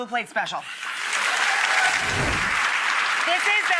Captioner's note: applause